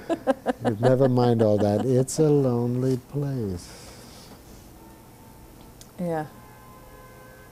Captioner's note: laughts